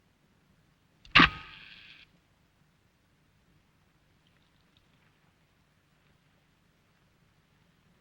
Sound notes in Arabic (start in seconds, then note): 1.1 الطنين الكهربائي